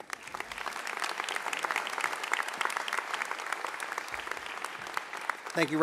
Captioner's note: applause